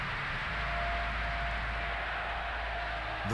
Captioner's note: cheers and applause